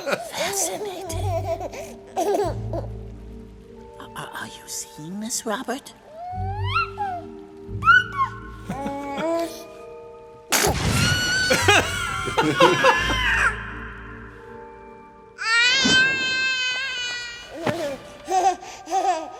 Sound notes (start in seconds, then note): 10.5 sneezes; 10.9 screams; 18.8 laughs